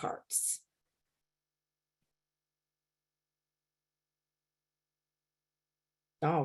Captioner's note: silence